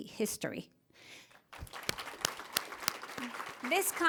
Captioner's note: applause